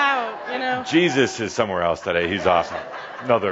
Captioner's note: laughter